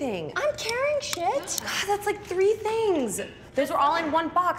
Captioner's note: sighs